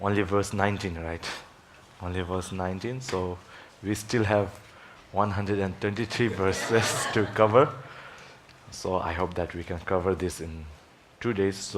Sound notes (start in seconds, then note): 6.2 audience laughs